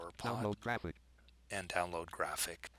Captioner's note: synthesized speech